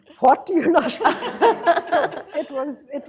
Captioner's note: laughter